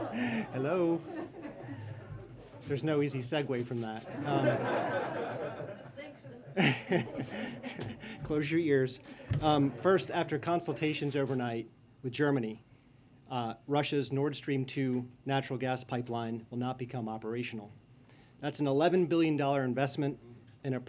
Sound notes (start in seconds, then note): 4.0 laughter; 7.7 laughs